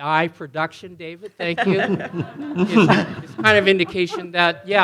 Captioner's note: panelist laughing